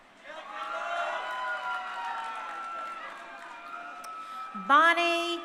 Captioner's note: crowd cheering